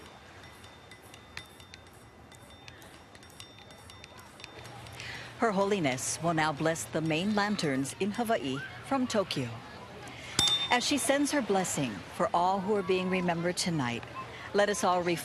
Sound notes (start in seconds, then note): 0.0 clank; 0.0 water lapping on shore; 4.9 background chatter; 6.2 clank; 7.4 light ringing